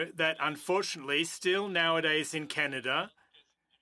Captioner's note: speaking French